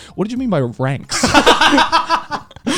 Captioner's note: laughing